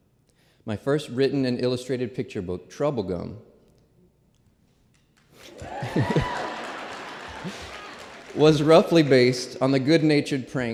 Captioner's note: applause